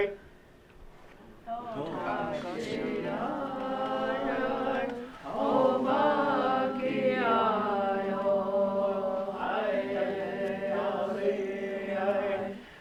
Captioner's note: students reciting chant